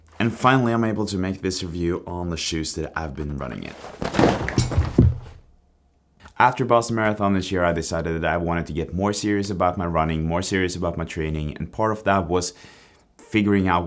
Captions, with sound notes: And finally, I'm able to make this review on the shoes that I've been running in. (shoes squeaking) After Boston Marathon this year, I decided that I wanted to get more serious about my running, more serious about my training, and part of that was figuring out